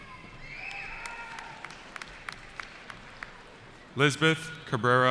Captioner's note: cheering